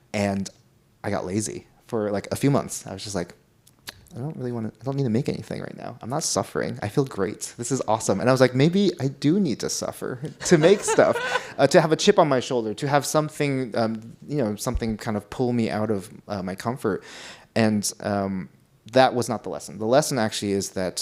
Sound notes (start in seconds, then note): 10.2 laughs